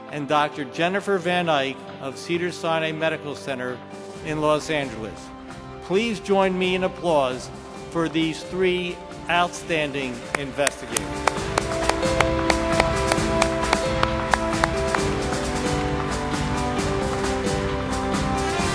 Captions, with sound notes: and Dr. Jennifer Van Eyk of Cedars-Sinai Medical Center in Los Angeles. Please join me in applause for these three outstanding investigators. (triumphant orchestra music) (applause)